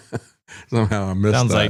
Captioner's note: laughs